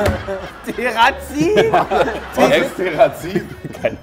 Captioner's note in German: lacht